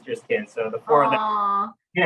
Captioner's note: laughing